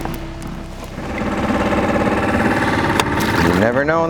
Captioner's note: motor rumbles